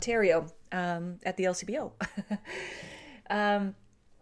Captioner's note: laughs